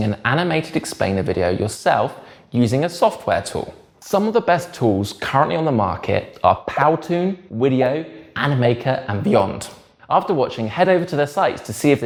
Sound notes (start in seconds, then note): 7.4 bubbles popping